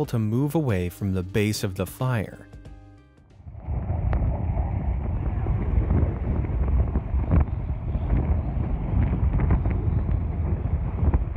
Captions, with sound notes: to move away from the base of the fire. (wind rustling)